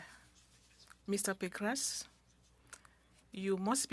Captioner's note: speaking French